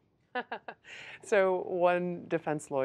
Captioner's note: laughter